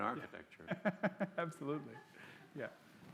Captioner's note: laughs